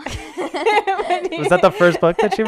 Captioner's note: laughing